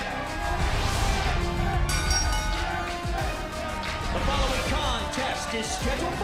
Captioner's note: bell ringing